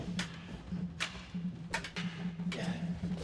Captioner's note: swords clanking